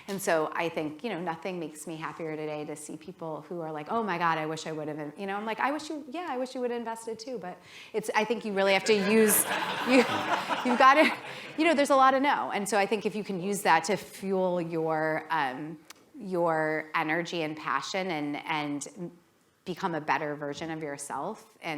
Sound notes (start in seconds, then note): 8.8 laughter